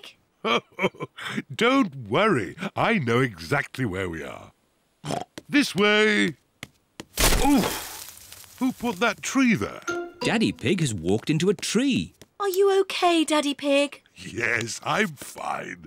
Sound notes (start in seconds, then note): 0.4 chuckles; 5.0 oinks